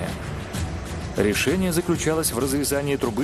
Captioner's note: voiceover